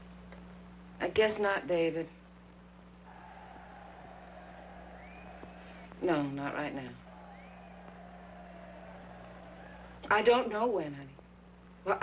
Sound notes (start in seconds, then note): 3.0 distant sounds of baseball crowd cheering